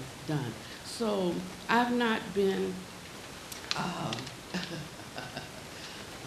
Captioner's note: laughing